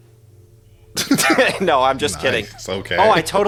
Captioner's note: laughing